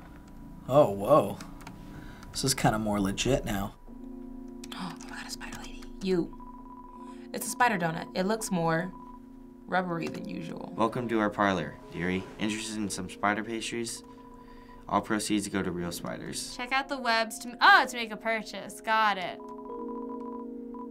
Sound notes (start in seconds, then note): 4.7 gasping